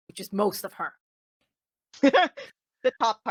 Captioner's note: laughing